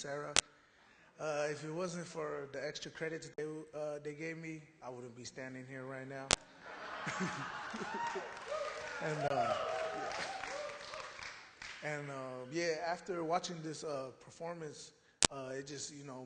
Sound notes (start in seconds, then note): 7.0 applause